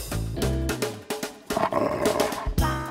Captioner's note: growl